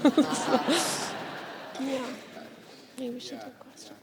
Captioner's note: audience laughs